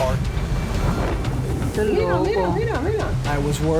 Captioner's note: man and woman speaking Spanish